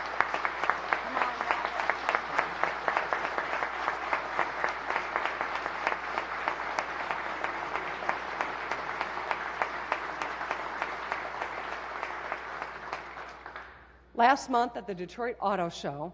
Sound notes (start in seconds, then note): 4.8 applause